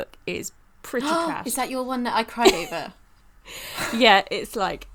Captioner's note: laughing; gasps